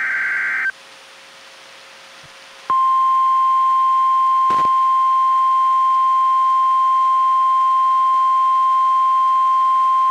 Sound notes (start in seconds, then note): 2.7 1050 HZ tone